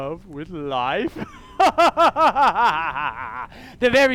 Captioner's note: evil Laugh